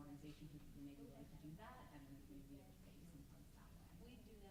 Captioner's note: stammers